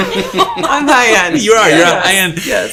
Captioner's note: all laughing